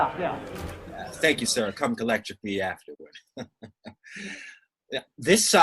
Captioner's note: laughs